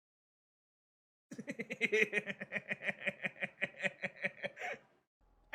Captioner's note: laughing